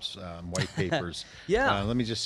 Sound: laughter

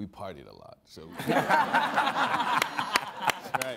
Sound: all laughing

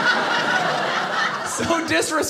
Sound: audience laughing

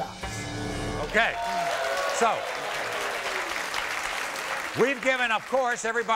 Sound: clapping

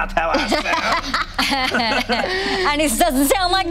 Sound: laughing

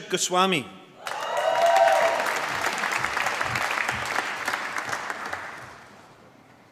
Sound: applause

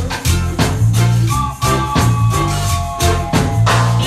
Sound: train Whistle

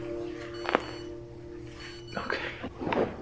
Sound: beeping

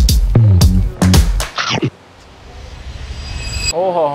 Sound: munching

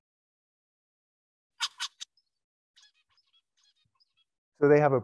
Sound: bird singing

